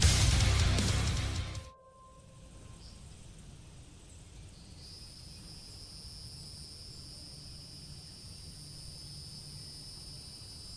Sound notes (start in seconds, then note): 1.2 gentle music; 4.9 cicadas chirping